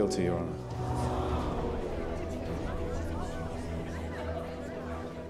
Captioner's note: gasps from the courtroom audience